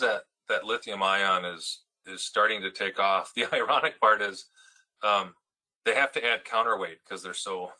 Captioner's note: laugh